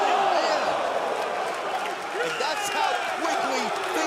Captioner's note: crowd cheering